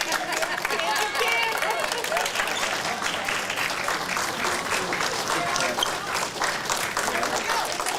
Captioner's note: applause